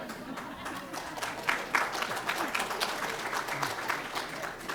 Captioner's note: laughter and applause